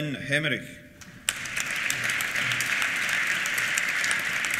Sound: applause

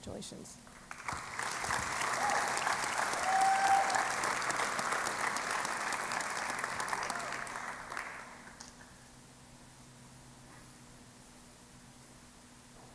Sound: applause

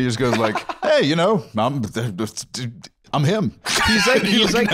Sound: stammering

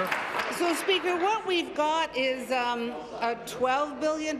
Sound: applause

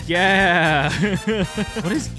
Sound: laughter

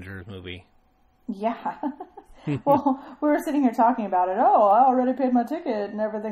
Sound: laugh

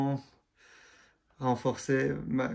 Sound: French

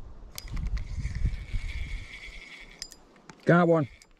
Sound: reel turning

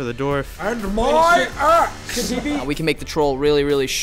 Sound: imitating john rhys-davies

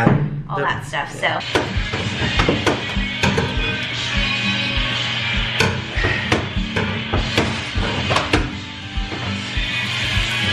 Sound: construction banging and clanking

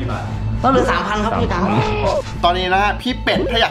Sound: chuckles

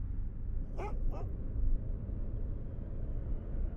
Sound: dog barks

